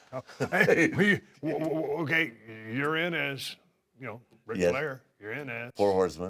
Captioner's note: laugh